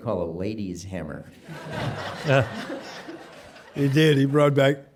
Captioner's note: audience laughing